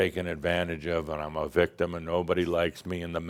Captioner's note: none